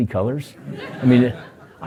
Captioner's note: laughter